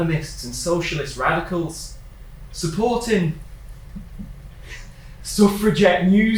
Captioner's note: laughs